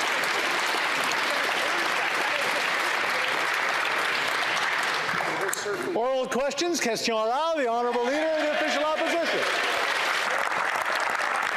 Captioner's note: applause